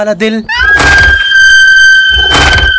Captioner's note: Screams